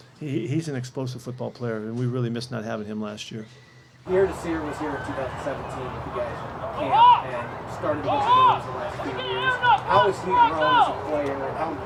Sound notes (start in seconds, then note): 6.2 high fan noise; 8.2 people playing in the background